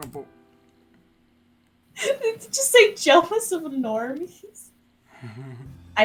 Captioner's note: laugh